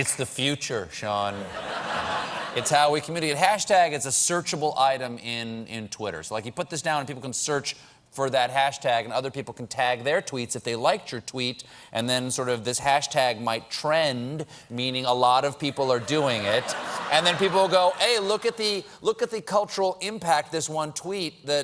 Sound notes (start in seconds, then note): 1.3 laughter